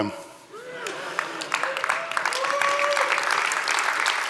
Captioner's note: audience cheering